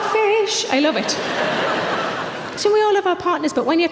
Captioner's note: audience laughs